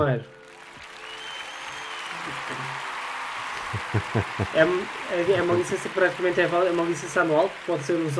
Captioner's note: Aplauze